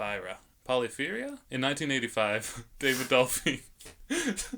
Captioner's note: laughing